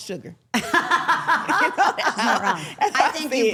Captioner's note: laughing